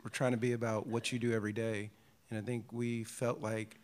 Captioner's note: laughs